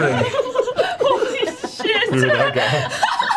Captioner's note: all laugh